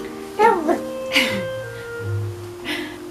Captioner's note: more baby noises